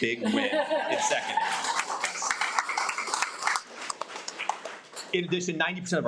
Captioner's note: audience laughs